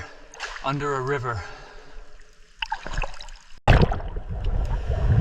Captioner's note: water bubbling